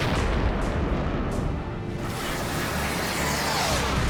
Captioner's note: explosion; explosion